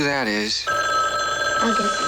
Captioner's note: phone ringing